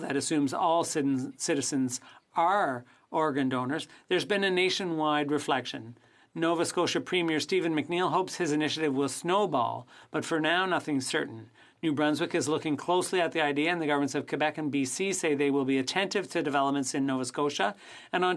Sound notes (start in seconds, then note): 8.6 speaking French